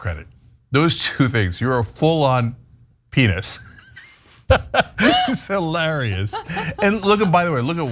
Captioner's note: laugh